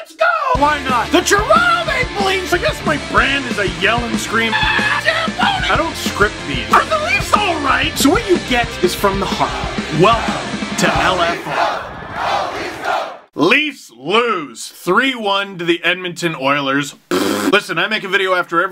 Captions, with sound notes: GO! - *rock music plays throughout intro* - Why not? - THE TORONTO MAPLE LEAFS - I guess my brand is I yell and scream - *screams* - ZAMBONI - I don’t script these - Are the Leafs alright? - So what you get is from the heart - Welcome to LFR (Go Leafs Go chants) Leafs… lose. 3-1 to the Edmonton Oilers. *pffffft* Listen I make a video after every